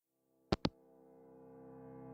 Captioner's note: hangup